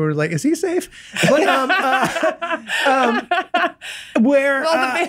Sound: Glenn and Megan laughing; laughs

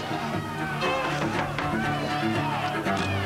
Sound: knock knock

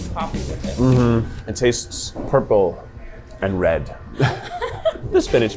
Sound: laughs

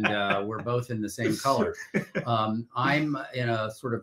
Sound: laughing

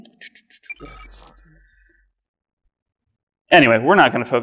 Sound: mutters

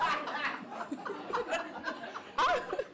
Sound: audience Laughter

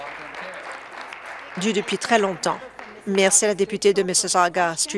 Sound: applause

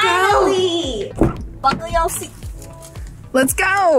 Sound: car door thuds

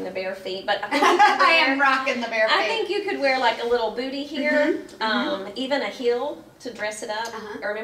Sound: laughs

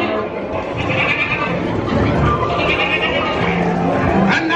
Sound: donkey sounds; goat sounds

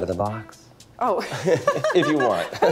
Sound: laughs

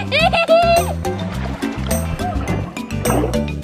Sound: laughing; water splashing

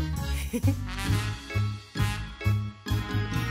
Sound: giggles

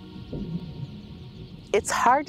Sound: birds chirping

